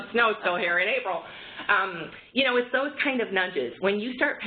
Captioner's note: laughter